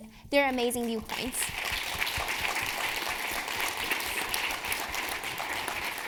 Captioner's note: audience applauding